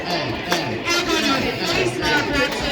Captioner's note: none